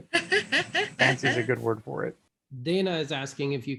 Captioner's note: laughing